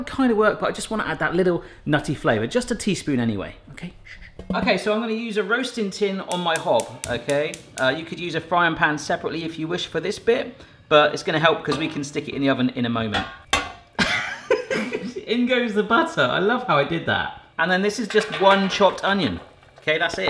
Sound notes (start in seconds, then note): 14.0 laughs